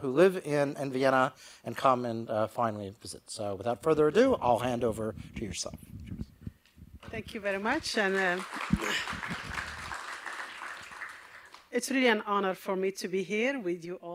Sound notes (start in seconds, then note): 7.2 applause